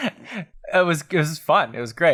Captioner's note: laughter